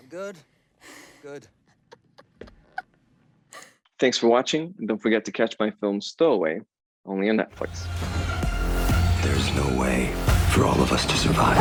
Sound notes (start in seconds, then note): 1.7 chuckling; 7.6 suspenseful music